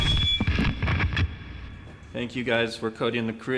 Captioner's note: microphone squealing